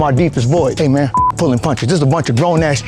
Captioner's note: beep